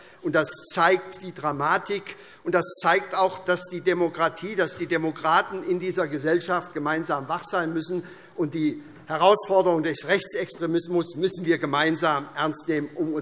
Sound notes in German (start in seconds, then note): none